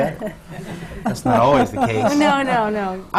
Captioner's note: laughter from the panel